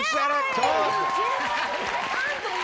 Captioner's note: laughs